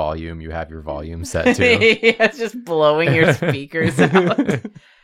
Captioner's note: laughs